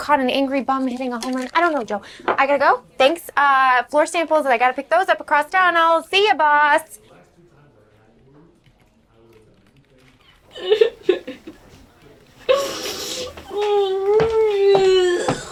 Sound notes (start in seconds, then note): 10.4 crying